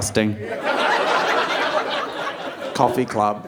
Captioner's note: audience laughing